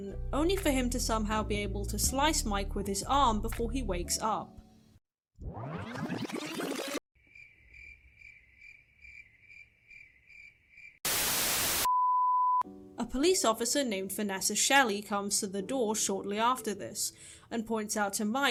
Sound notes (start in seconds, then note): 4.8 rewind sound effect + crickets; 4.8 static